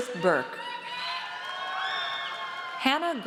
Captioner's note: audience cheers